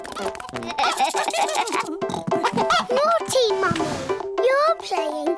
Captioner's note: giggling